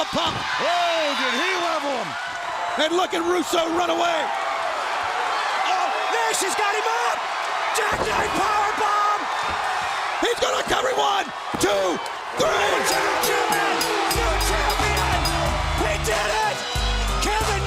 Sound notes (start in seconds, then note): 14.3 bell ringing